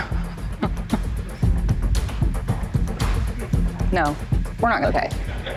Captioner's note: chuckling